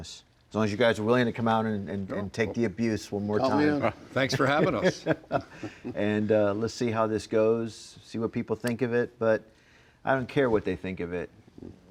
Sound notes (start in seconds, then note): 4.3 chuckles